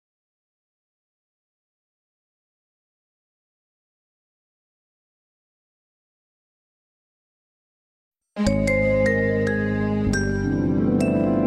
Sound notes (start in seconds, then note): 0.0 silence; 8.4 remastered wondrous chime playing